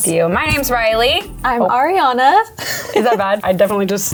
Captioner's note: chuckles